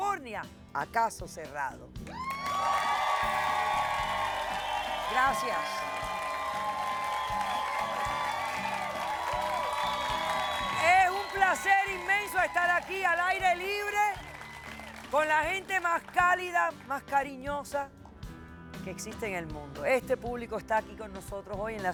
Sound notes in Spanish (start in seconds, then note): 7.2 Aplausos